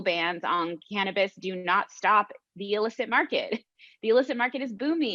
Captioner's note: laughs